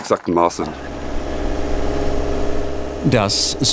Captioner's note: rattling